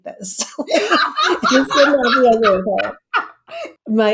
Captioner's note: laughs